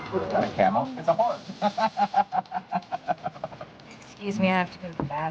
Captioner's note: laughs